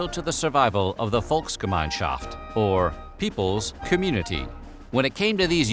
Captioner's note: german